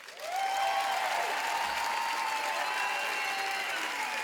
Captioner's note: applauding